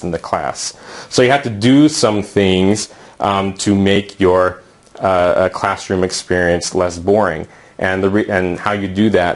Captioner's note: uumm